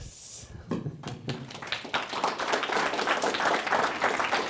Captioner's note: applause